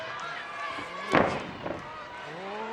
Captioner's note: feet stomp